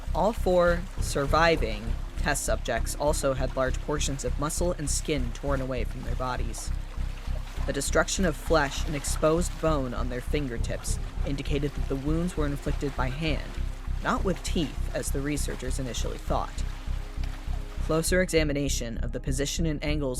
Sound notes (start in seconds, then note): none